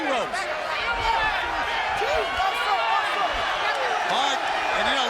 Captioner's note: audience cheering